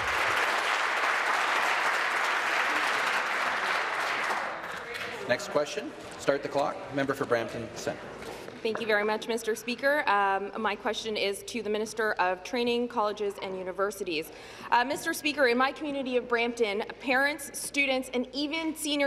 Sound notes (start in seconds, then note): 3.4 applause